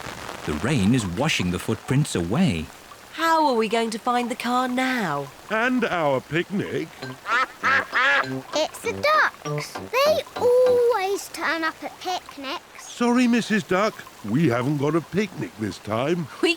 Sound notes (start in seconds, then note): 6.7 quacks